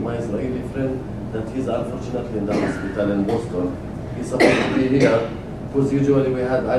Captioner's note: cough